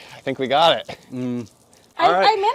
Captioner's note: Chewing Mentos